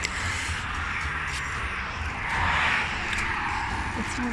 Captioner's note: traffic